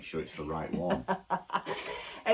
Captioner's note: laughs